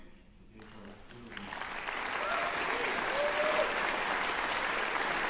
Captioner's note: cheering, applause